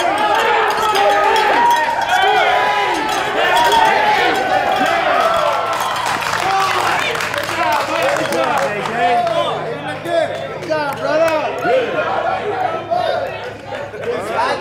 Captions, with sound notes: - Squeeze your knees, squeeze your knees! (people yelling) (people cheering and clapping) - Good job, buddy, good job! - Good job, JJ! (clapping) - Good job, brother!